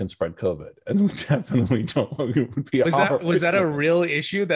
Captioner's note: laughing